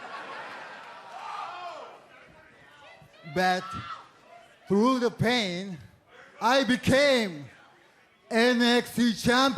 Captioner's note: laughter